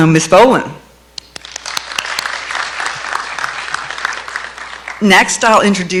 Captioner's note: clapping